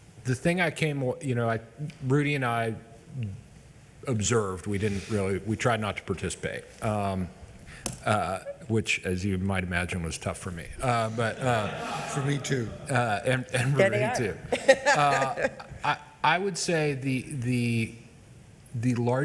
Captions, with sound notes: the thing, I came, Rudy and I observed, we didn't really, we tried not to participate, which as you might imagine was tough for me. (members laughs) - For me too. - Then they are. - And Rudy too. (member laughs) I would say the largest takeaway I had